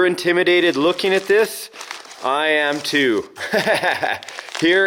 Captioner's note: laughs